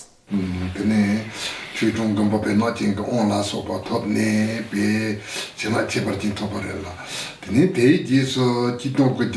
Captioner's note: foreign Language